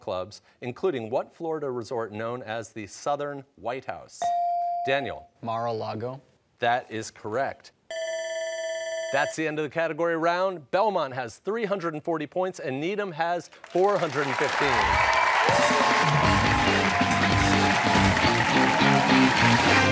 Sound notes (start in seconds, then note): 7.9 bell ringing; 15.3 cheers and applause